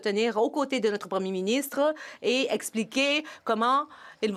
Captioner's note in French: voix de l'interprète